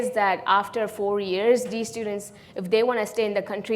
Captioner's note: none